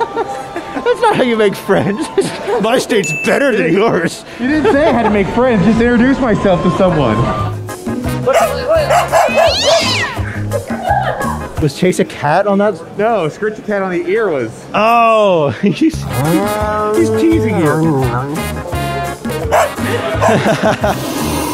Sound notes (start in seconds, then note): 1.8 laughing; 2.1 mocking; 8.2 attendee laughter; 8.3 barking; 9.0 meowing; 15.7 laughing; 18.4 cat growls; 19.4 barking; 19.5 hissing